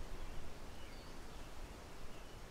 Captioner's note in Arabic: نسيم عليل